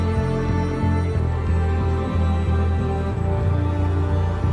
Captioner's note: none